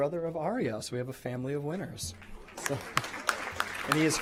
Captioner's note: applause